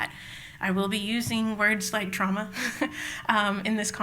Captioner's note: laughs